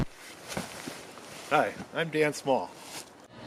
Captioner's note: zipper scratch